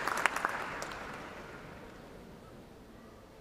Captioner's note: applause